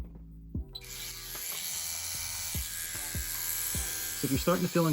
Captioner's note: tattoo machine buzzing